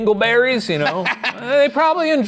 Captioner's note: Ryan laughing